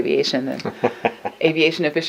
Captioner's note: laughs